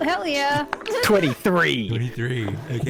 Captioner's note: dice clack